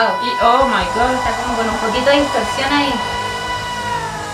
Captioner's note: growl